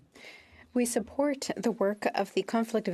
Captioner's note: speaking French